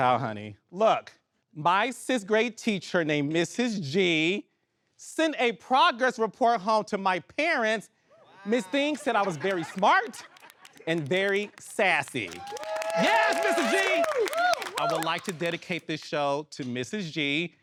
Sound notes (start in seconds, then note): 7.4 audience exclaiming and laughing; 11.2 audience cheering